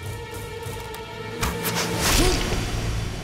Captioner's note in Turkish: Ok sesi